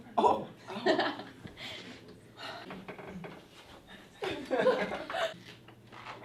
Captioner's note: laughing